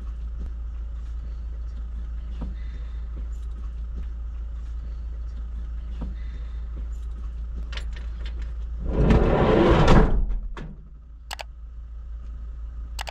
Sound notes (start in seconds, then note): 8.7 van sliding door slides and bangs shut loudly